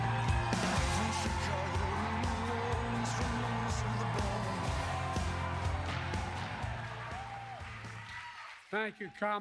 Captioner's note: applause